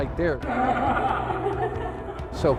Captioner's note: laughing